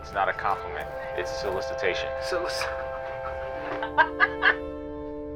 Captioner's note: laughs